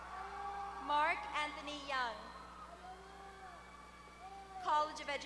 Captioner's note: applause; applause